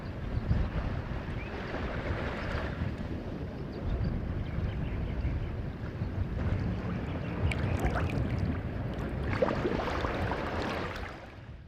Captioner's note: sounds of gentle ocean waves